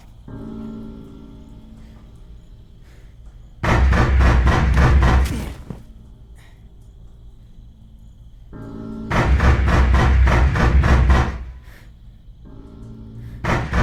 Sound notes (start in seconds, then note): 3.6 Aaron grunts; 3.7 banging on the door; 8.8 banging on the door; 8.8 gentle, menacing music